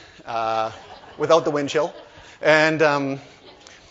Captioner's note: laughter